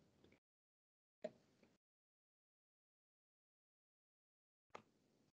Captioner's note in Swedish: Tystnad